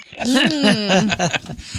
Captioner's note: laughing